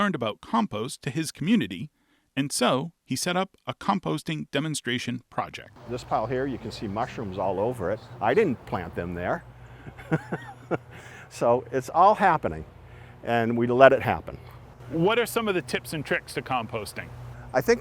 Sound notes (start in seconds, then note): 9.7 laughs